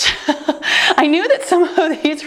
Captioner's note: chuckles